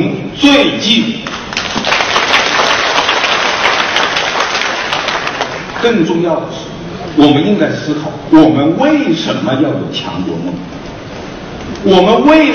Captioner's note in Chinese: 众人鼓掌声